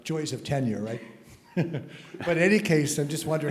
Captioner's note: laugh